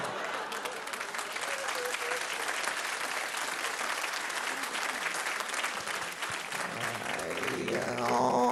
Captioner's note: applause